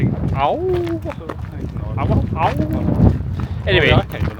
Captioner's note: howls